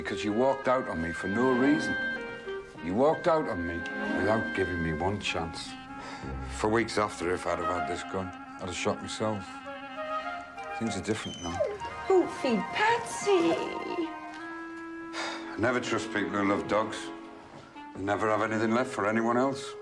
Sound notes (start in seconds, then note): 11.2 Patsy whining; 14.7 Harry sighs